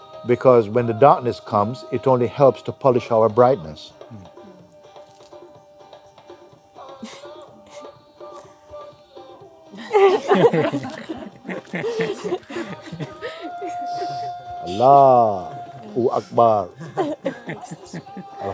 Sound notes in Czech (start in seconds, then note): 9.8 smích